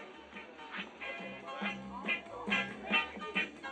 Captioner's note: lively chatter